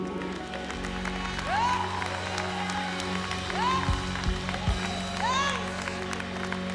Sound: congregation applauds

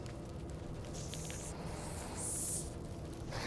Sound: hissing

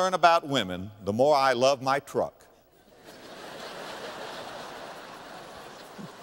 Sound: audience laughter

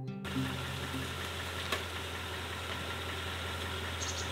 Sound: gravel crunching

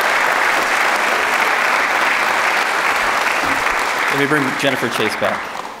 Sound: audience clapping

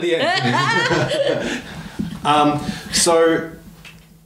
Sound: laughs

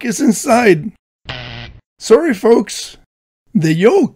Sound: buzzer

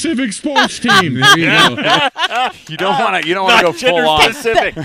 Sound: laughing

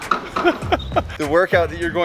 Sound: laughing

